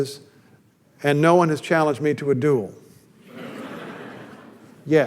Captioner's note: audience laughter